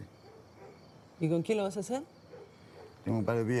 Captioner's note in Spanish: Turca